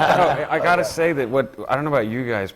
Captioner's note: laughter